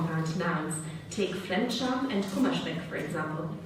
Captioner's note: speaking German